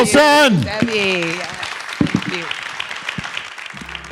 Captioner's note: audience applauding